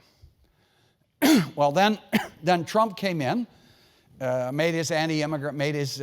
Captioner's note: cough